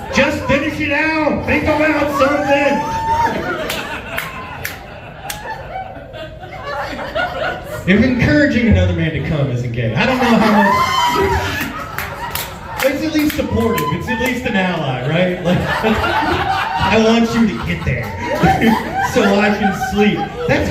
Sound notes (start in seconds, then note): 3.1 laughs; 10.0 laughs; 14.9 laughs